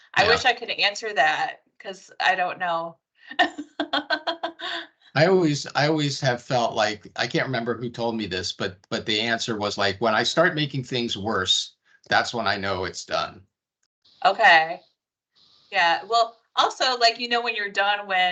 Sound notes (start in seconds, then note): 3.3 laughing